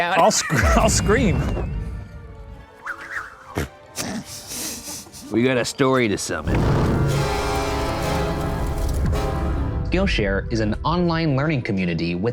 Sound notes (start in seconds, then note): 1.7 placid music; 3.1 letter whooshing; 3.9 men laughing; 6.4 fire crackling; 6.4 dramatic music